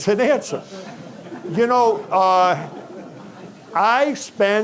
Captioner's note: audience chuckling